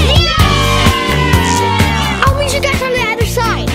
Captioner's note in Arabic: الهتاف بصوت عال